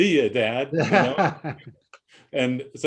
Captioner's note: laughs